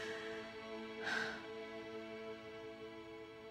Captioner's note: sighs